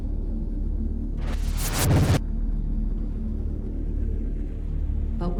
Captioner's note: screen crackles